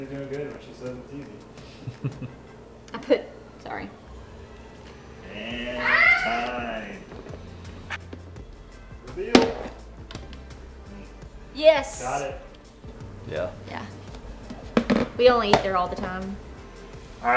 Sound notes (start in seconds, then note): 0.0 tapping sounds; 1.6 chuckling